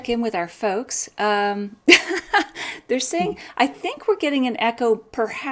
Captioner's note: laughs